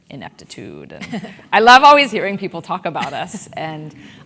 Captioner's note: laugh